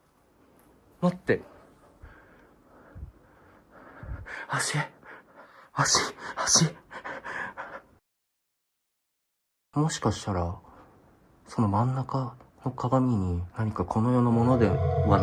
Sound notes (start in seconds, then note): 6.1 heavy breathing